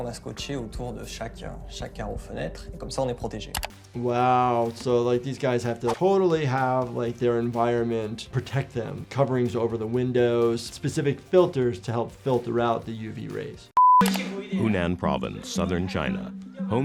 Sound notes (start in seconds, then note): 13.8 tone beeps; 14.0 mouse clicking